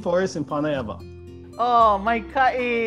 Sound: in Hawaiian language

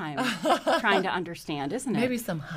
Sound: laughs

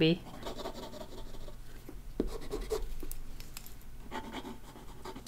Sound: pencil scratching on paper

